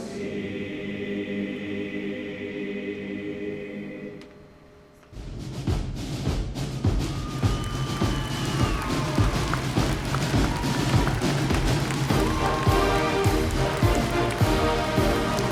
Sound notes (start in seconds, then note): 7.1 attendees applauding; 12.2 ceremonious music